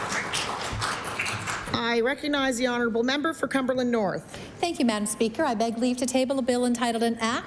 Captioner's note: applause